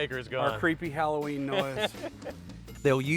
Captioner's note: laughs